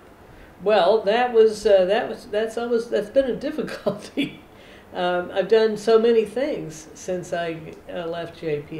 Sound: laughs

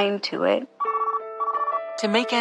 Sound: phone rings

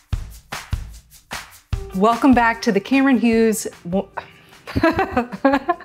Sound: intro music; laughing

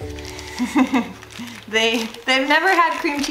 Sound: laughs

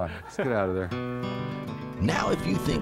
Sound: laughs

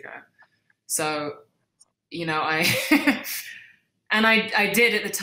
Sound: laughs

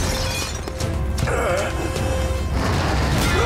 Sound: grunting

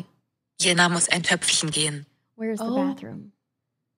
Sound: phone speaking German

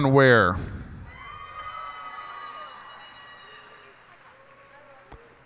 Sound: cheers and applause

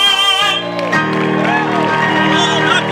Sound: applause

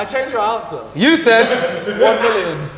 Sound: group laughs

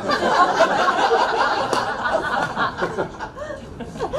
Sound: crowd laughs

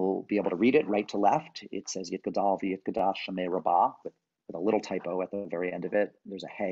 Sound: hebrew

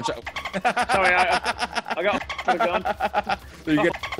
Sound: laugh

